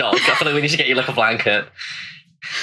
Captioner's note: whispered